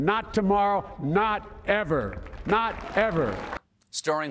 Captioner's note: applause